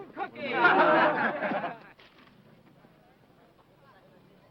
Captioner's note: men laughing